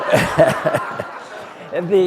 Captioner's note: laughter